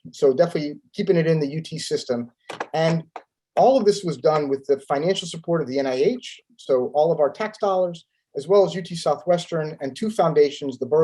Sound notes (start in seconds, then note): 2.5 keyboard clanking